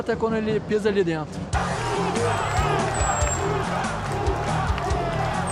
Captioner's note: crowd cheering